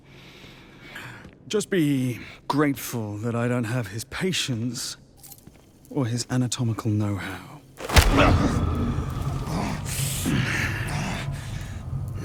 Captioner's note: groaning